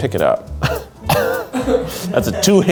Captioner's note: laughs